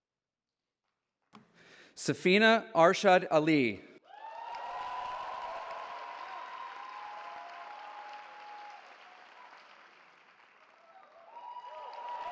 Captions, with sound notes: Safinah Arshad Ali. [CHEERING]